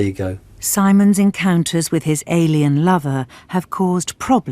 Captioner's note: voiceover